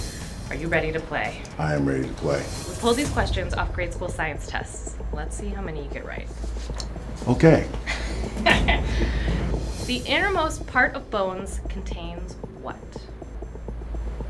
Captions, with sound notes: Are you ready to play? I am ready to play. We pulled these questions off grade school science tests. Let's see how many you get right. Okay. (laughing) The innermost part of bones contains what?